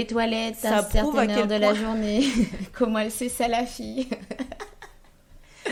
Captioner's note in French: rire